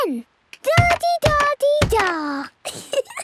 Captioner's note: thudding; giggles